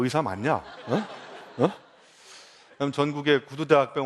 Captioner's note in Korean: 웃음